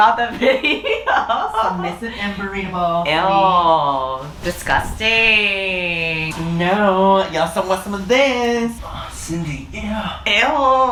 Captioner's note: moans